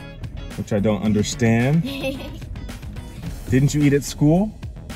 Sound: laughs

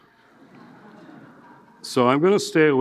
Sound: audience laughing

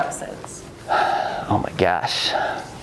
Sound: sighs

